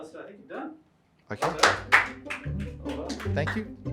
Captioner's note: crew clapping